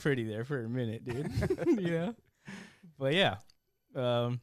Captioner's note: laughter